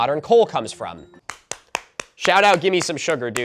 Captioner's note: clapping